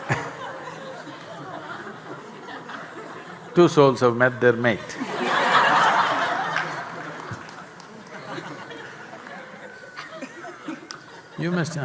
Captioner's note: laughter